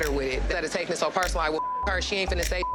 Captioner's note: beep